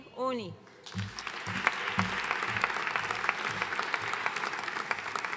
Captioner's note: audience applauding